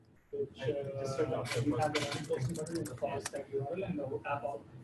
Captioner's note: audience members chattering